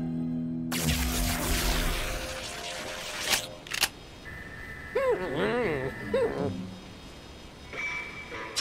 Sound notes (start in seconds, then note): 0.7 electric buzzing; 3.6 clicks